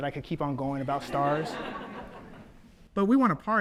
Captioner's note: audience laughs